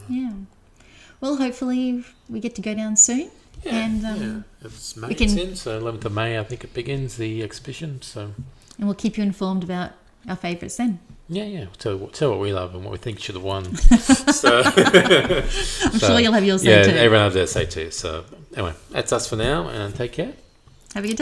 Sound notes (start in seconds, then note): 13.7 laughter